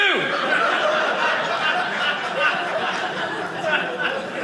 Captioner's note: audience laughing